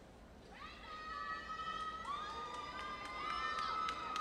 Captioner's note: audience cheering